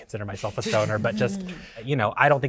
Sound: participants chuckling

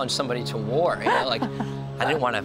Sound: laughs

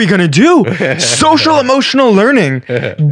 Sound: laughing

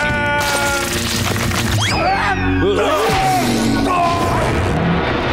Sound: screaming

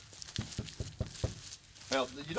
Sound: knocks

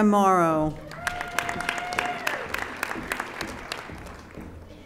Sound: audience applauding

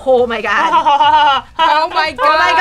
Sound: laughs

